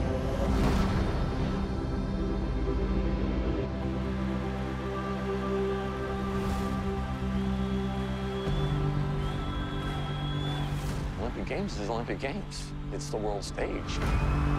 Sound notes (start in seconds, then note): 3.3 crowd cheering; 8.2 crowd chanting